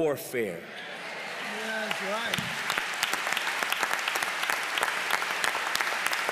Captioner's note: applause